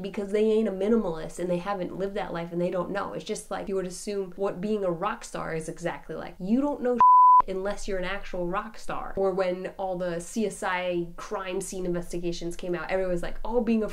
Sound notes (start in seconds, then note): 7.0 beep